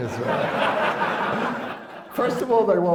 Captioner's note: laughter